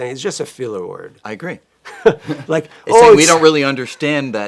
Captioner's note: chuckles